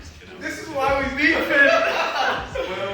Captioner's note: all laughing